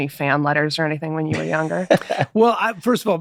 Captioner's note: Glenn laughs